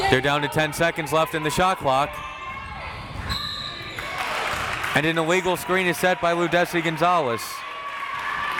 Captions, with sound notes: They're down to 10 seconds left in the shot clock. (whistle tweeting) And an illegal screen is set by Ludeysi Gonzalez.